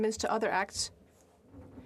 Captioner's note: speaking French